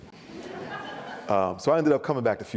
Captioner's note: audience laughs